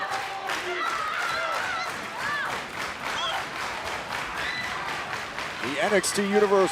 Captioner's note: crowd cheering